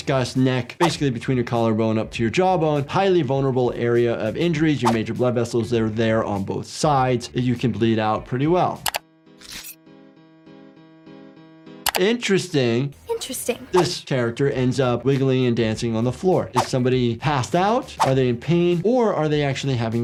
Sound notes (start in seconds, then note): 8.3 mouse clicking; 9.4 blade rasping